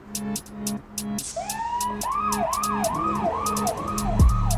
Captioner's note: siren wailing